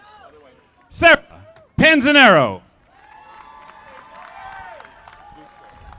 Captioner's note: audience applauding